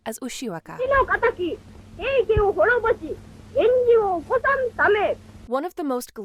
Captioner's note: speaking in foreign language